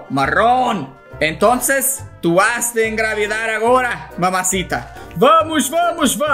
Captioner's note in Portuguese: em "espanhol"